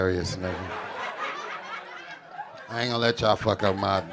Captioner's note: audience laughing